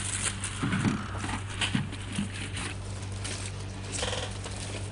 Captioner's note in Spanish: Ruido de papeles al buscar